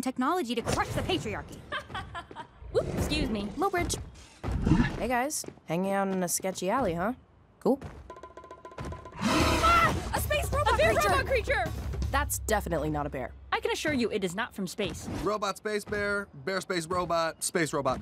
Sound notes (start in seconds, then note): 1.6 laughter; 9.2 roaring